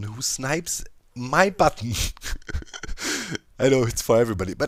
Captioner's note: laughs